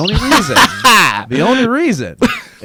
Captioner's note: laughs